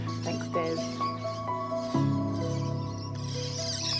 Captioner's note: birdsong